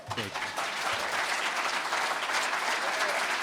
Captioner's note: cheers and applause